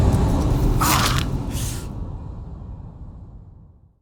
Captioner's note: cries out, winces